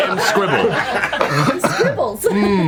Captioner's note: all laugh